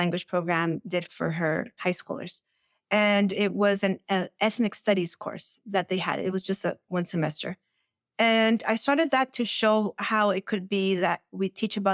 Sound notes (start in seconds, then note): none